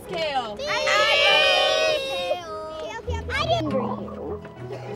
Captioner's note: students clamoring